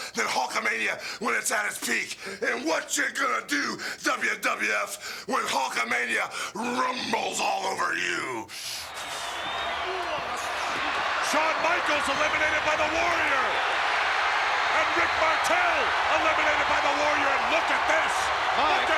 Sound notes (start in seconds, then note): 8.5 inhales; 8.9 crowd cheering